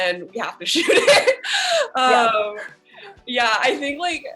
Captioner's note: laughing